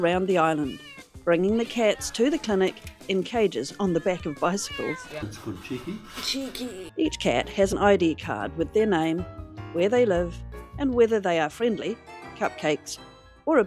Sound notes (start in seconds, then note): 3.6 many meows; 5.3 jaunty music; 12.0 circus music